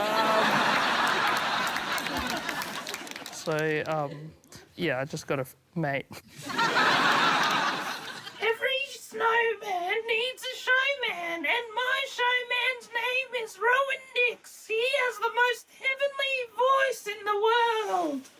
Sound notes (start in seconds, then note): 0.0 laughter; 6.1 laughter; 7.9 shrill voice